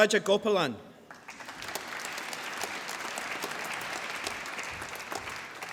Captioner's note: applause